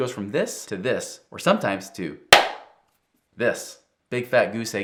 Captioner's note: claps